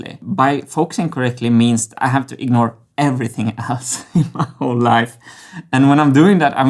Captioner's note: chuckles